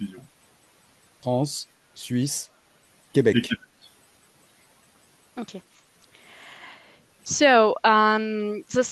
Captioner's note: translating from French